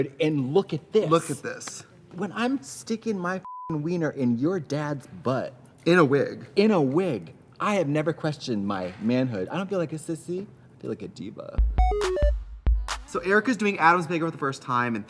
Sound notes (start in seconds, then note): 3.4 beep; 11.6 fun music